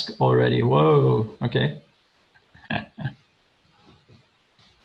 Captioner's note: laughs